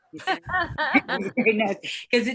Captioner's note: laughs